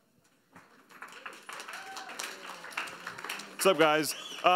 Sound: audience applauds

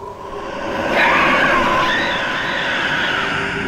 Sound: screams

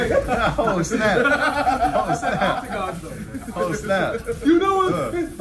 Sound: laugh

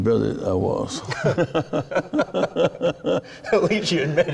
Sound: laughing

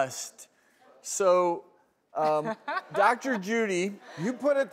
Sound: laughs

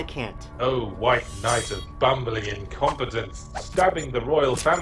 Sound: voiceover

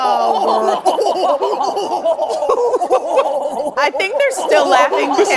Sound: laughing

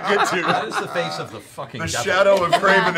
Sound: laughter

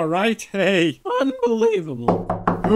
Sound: knocking

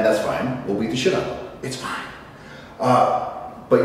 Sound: whispers

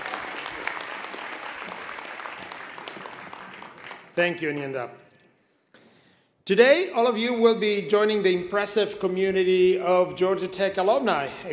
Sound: applause

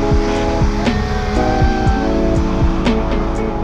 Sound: man cheering; soft electronic music

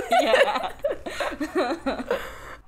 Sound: both laugh

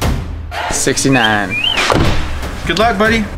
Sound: high intensity techno music; whistles

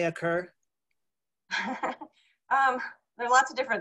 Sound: chuckling

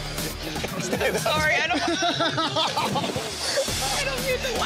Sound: laughing

